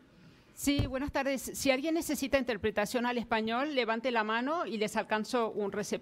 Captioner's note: speaking in foreign language